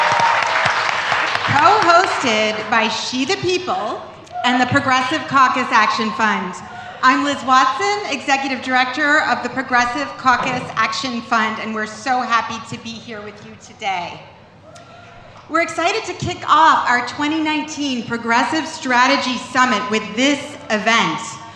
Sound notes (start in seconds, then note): 1.6 cheers and applause